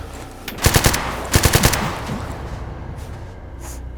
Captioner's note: gun fires